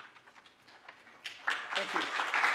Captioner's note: applause